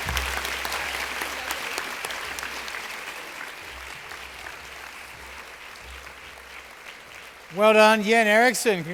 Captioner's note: applause